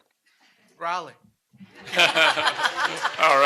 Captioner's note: laughter